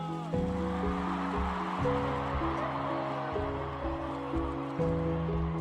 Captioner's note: soothing music; crowd cheering and applauding